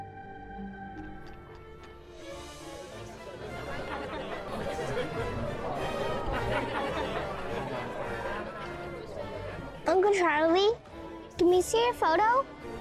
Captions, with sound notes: (party guests chattering) (playful orchestral music) - Uncle Charlie, can we see your photo?